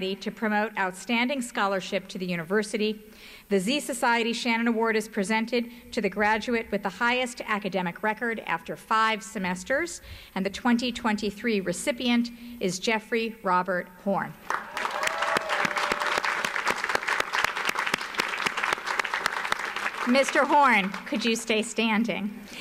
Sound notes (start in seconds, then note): 14.4 audience applauds